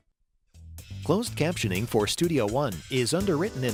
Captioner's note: voiceover